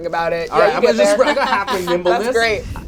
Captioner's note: overlapping chatter